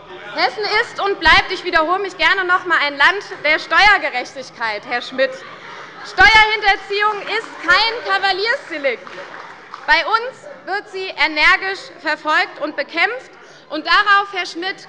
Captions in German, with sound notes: Herr Schmitt -ich wiederhole mich gerne noch einmal-: Hessen ist und bleibt ein Land der Steuergerechtigkeit. Steuerhinterziehung ist kein Kavaliersdelikt. (Beifall bei der CDU und dem BÜNDNIS 90/DIE GRÜNEN - Zurufe von der SPD) Bei uns wird sie nämlich energisch verfolgt und bekämpft.